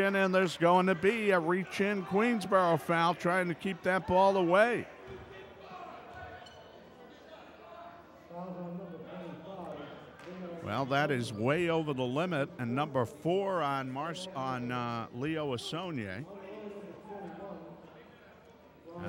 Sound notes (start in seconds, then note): 4.7 yelling